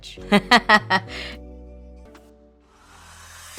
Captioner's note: laughs